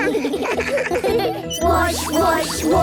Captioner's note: children giggling